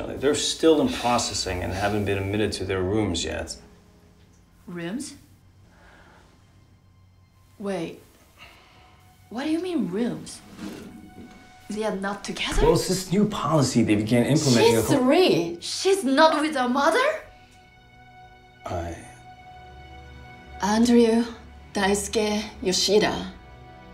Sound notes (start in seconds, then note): 5.7 faint gasp